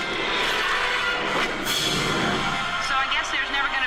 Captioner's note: explosion